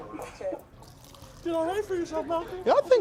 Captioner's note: both laughing; water trickling